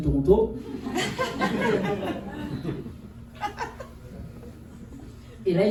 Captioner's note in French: rires